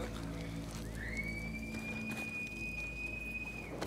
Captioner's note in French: Sifflements